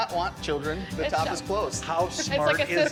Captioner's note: giggles